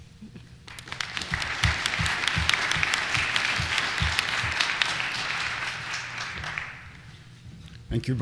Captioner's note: applause